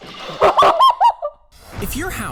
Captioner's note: laughing